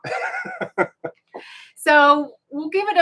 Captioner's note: both laughing